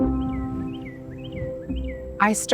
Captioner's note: birds chirping